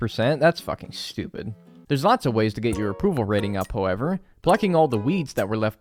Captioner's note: voiceover